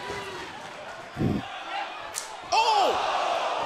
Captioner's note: crowd chatter